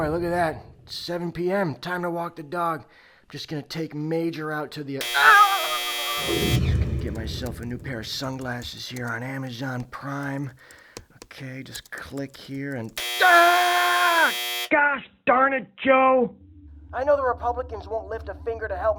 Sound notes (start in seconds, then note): 5.0 loud buzzing and screaming; 13.0 loud buzzing and screaming